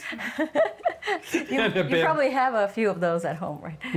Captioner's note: laughing